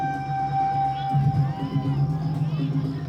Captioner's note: distant shouting